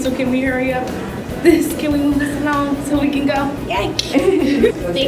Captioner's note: laughter